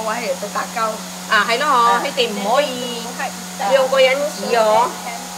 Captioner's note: Cantonese